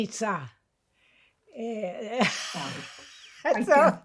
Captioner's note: laughing